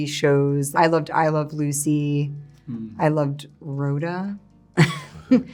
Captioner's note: laughing